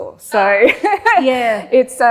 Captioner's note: laughs